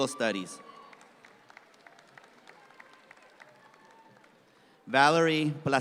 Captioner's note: audience claps